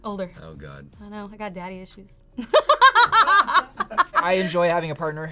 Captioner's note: laughs